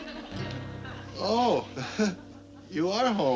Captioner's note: chuckles